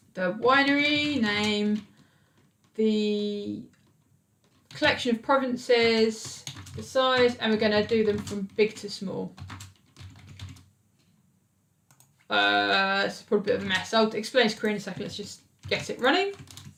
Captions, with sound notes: the winery name, the collection of provinces, the size and we're gonna do them from big to small. (keyboard clicks) A super big mess out experience creating something that's just gets it running.